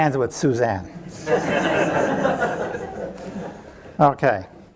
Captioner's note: audience laughing